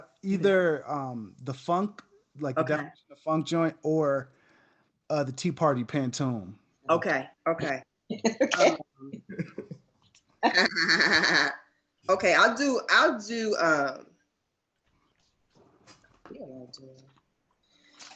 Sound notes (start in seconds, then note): 9.2 participants laugh